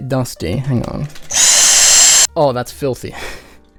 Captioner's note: vacuum noises